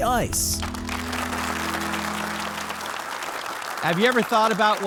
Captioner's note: audience applauds